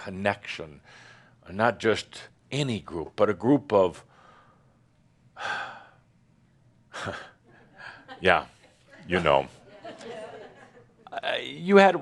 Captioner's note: a few chuckles